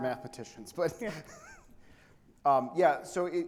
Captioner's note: chuckles